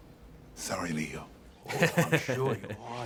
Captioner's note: laughs